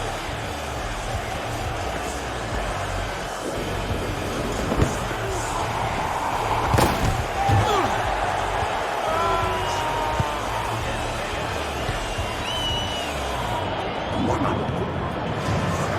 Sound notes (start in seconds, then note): 7.6 GAVIN mendengus